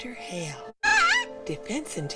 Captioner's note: Baby Rainbow squawks